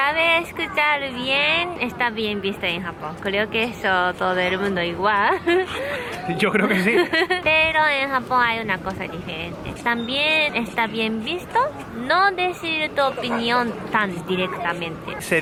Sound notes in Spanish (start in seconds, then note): 6.1 ríe